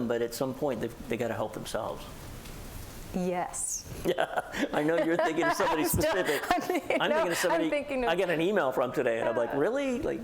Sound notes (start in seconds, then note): 7.9 laughter